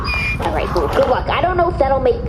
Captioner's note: braying